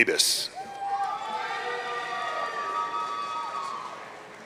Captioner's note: audience cheering